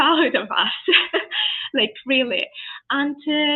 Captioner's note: laughs